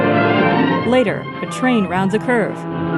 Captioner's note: train whistle blowing